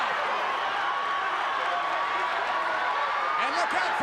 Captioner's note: crowd cheering continues